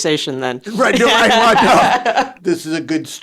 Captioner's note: both laugh